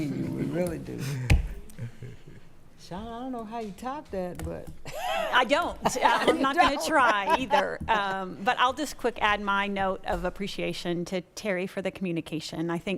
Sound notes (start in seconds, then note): 4.9 laughing